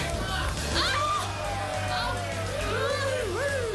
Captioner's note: woman yells; man cheering